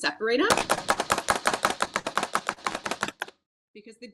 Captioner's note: chopper chopping